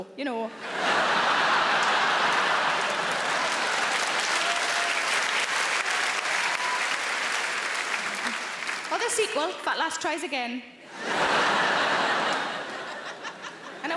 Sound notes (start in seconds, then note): 1.7 audience laughing and cheering; 3.5 audience clapping; 10.9 audience laughs